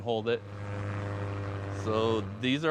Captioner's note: airplane flying